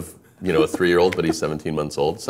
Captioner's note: laughing